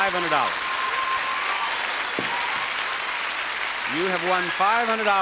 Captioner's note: audience cheering